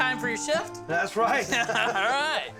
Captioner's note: laughing